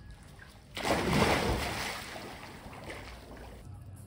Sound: huge splash

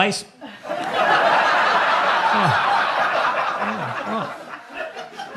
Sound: audience laughing

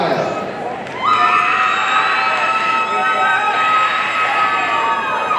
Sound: audience cheering

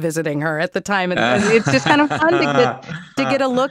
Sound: laughter

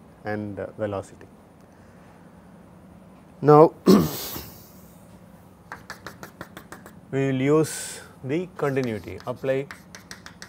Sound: shock

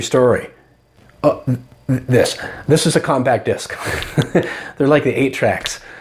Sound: laughing

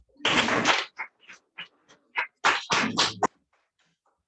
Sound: audience applauds

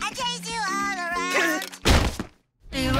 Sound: gasps

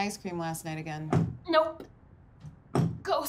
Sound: trampoline bouncing loudly

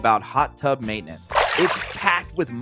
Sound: water splashing

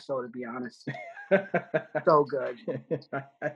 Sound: laughing

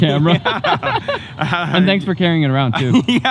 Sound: both laugh

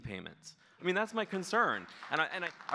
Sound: audience clapping

